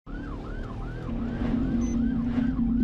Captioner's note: siren